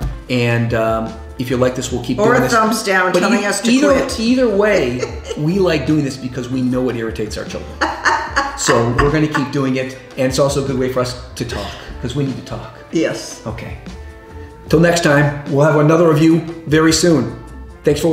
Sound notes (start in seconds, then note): 7.6 laughs